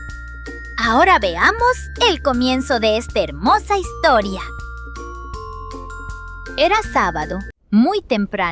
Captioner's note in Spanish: Voz en off